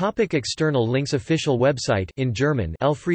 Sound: in German

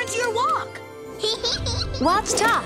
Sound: Didi laughs

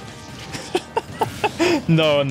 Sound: laughs

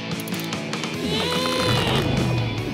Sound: grunting

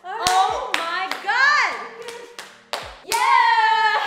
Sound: applauding

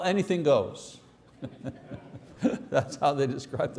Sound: laughing

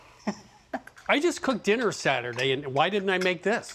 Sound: chuckles

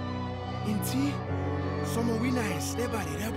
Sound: speaking in foreign language

